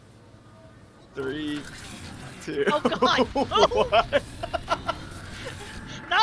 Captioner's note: laughs